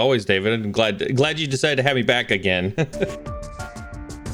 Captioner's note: laughs; upbeat music